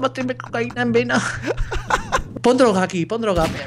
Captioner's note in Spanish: risa